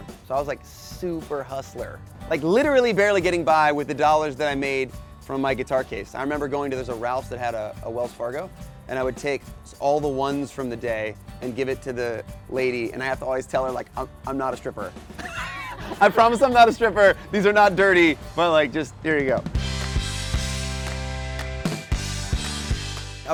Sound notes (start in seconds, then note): 15.1 laughs; 19.6 upbeat pop music